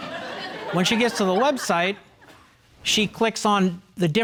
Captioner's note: audience chuckling